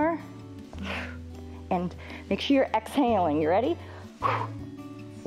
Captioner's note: exhales; exhales